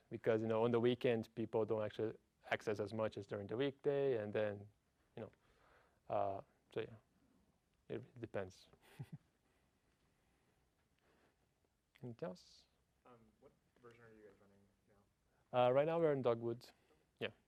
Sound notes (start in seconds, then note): 8.8 laugh